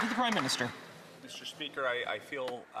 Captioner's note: some Applause